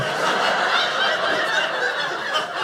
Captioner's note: audience laughing